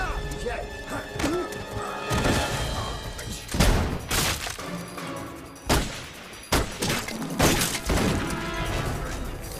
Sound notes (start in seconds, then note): 3.1 dramatic music; 3.1 guns firing